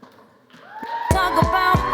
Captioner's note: applause